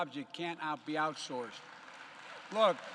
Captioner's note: applause